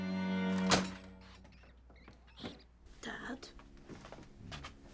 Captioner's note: latch clangs